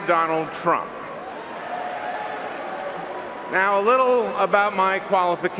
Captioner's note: cheering and applause